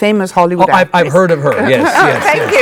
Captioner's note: audience clapping